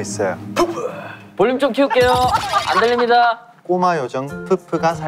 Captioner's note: laughing out loud